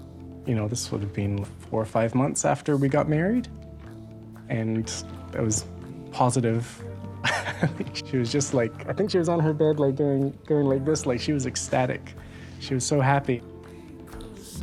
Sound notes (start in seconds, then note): 7.2 laughs